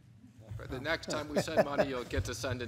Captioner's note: laughs